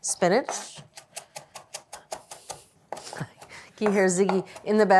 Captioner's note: knife chopping